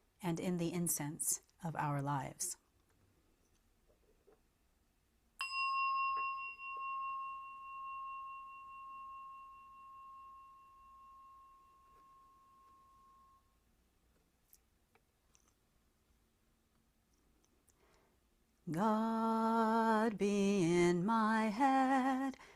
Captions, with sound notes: And in the incense of our lives (bell) God be in my head,